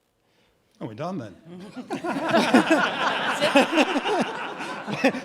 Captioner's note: audience laughing